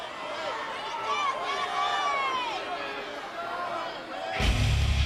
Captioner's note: crowd shouting; upbeat rock music